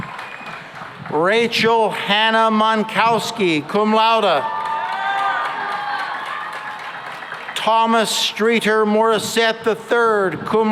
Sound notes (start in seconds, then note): 3.6 cheering and applause